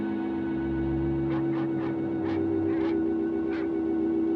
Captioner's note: barking in distance